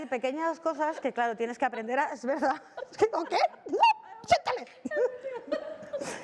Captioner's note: laughs